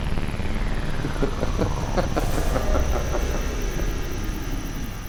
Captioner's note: laughs in Hebrew